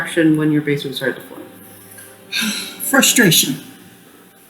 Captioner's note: sigh